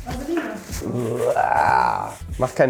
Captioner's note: sounds of being disgusted